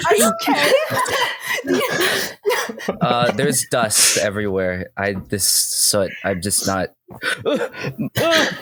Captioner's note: Driftwood feigns coughing